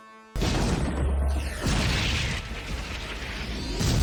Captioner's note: explosions booming